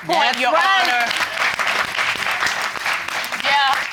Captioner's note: crowd applauds